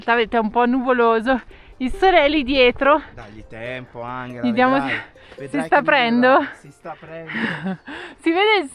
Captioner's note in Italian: risate